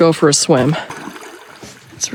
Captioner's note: splash